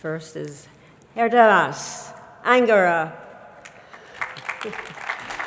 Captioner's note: chuckles